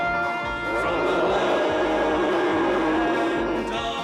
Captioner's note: dinosaur roaring